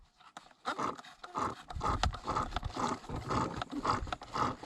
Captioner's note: pump gurgling